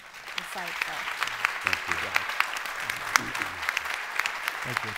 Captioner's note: applause